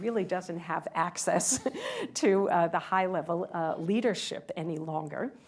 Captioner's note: laughter